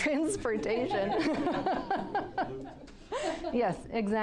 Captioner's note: group laughing